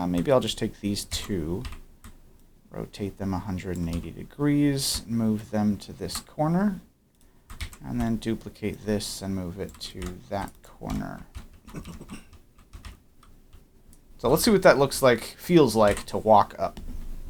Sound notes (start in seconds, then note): 11.6 clears throat